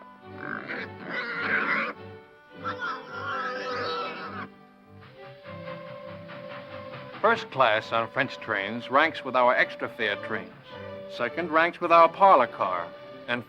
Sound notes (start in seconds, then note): 0.4 pig snorting; 5.2 train horn whistles